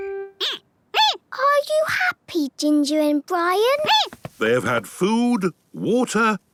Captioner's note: squeaking; squeaking